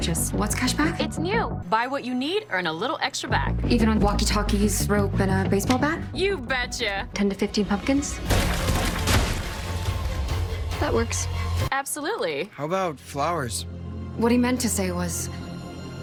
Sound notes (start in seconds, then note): 8.0 gunfire; 8.2 pumpkins burst